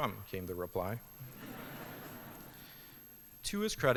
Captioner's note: laughter